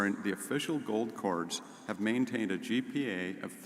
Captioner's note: none